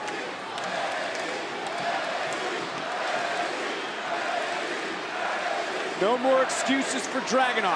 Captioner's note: crowd chanting